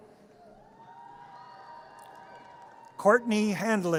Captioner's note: audience cheers